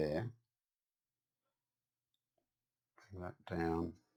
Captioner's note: silence